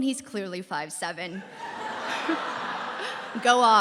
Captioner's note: laughter